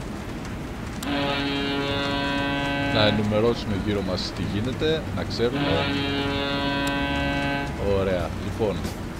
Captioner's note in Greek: Κόρνα!